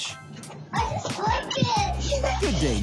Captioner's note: laughs